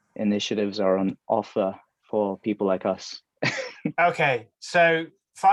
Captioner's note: laughs